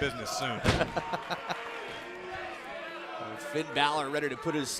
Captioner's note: laughs